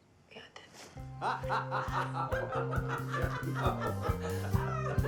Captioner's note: Herb and Carol laughing